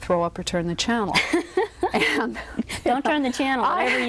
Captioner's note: laughs